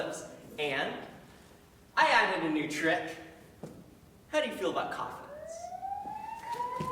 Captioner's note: sirens